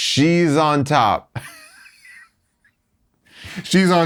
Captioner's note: chuckles